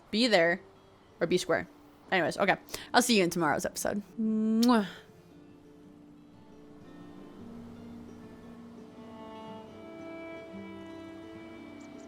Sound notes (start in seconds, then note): 4.2 kiss